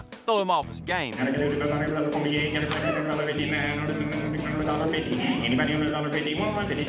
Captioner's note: auctioneering